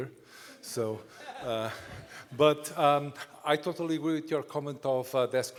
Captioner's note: laughter